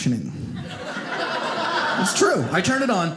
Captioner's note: audience laughing